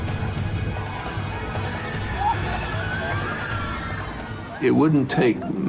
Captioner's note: passengers screaming